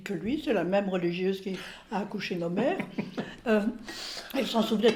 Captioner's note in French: rires